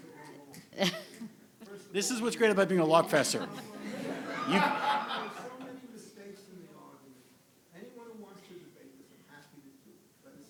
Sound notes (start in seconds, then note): 4.4 people laughing